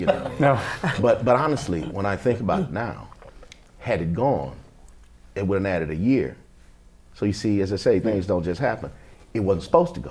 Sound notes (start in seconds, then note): 0.0 laughter